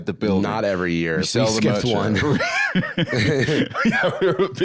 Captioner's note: both chuckle; laughing